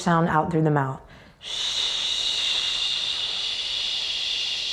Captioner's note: shushes